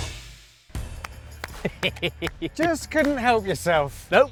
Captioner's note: claps